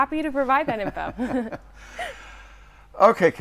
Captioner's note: laughing